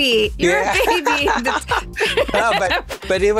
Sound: laughs

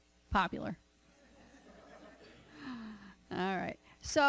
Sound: laughter

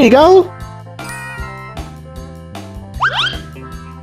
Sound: bright ding

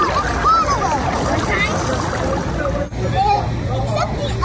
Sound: water splashing

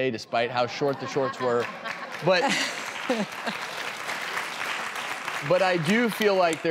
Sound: audience laughs; audience applauds

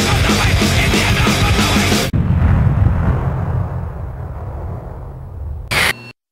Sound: bomb exploding

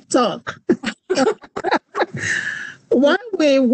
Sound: laughs

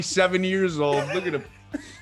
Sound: laugh

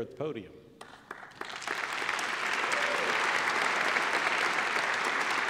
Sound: applause

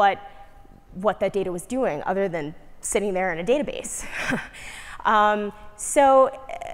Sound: laugh

